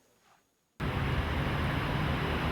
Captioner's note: street sounds